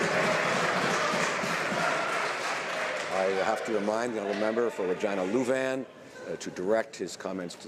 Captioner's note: some Applause